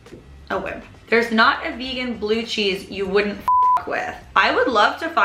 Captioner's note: beep